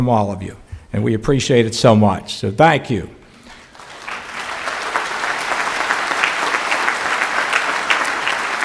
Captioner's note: clapping